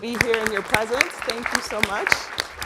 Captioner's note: audience clapping